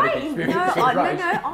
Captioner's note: both chuckling